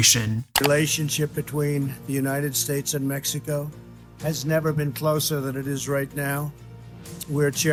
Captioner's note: Voice of Trump